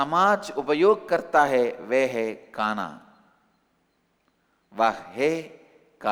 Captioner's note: hindi